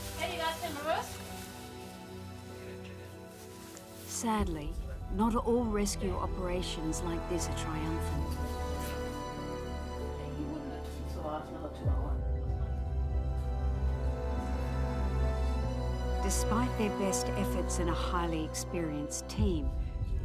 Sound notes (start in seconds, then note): 10.5 speaking foreign language; 13.2 dramatic music